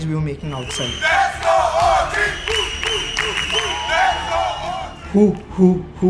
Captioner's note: applause